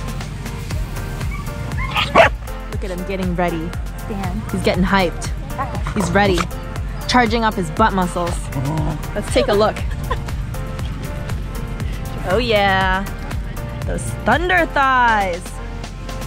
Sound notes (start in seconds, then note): 0.1 upbeat music continues; 1.7 dog barking; 5.8 dog grunting; 8.8 dog growling; 9.7 laughter